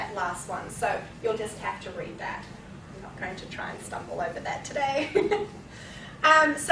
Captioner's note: laughing